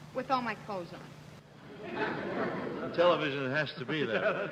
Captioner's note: laughing